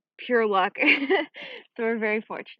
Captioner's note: chuckles